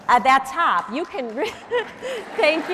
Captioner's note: audience cheering